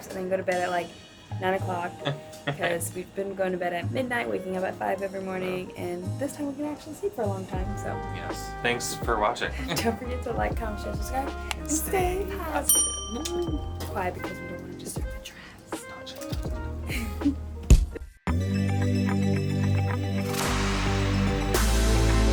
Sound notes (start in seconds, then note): 15.8 whispers; 18.9 cheery, upbeat music